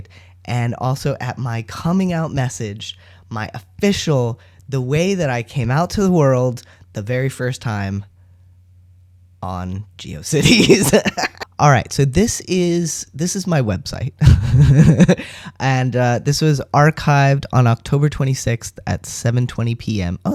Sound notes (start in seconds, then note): 10.4 laugh; 14.2 laughter